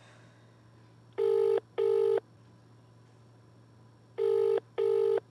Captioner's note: sighs; phone line ringing